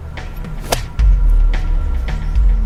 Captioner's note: blade slices